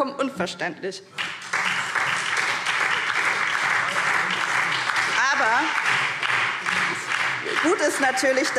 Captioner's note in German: Beifall SPD und DIE LINKE